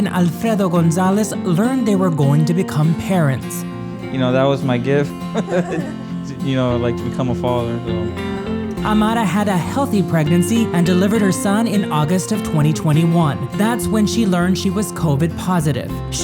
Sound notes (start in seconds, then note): 6.0 laughing